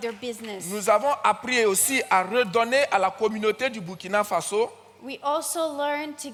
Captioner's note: audience claps; continues in French